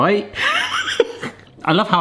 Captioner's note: person laughing